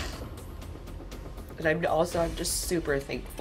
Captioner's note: sniffles